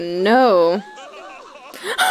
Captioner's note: daniel crying; willow crying laughing